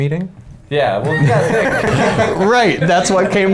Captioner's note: men laughing